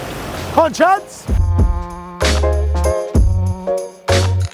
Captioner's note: shouts